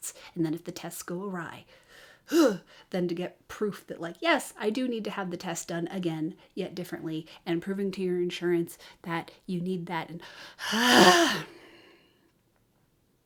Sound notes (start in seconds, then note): 1.8 ugh; 10.6 exasperated exhale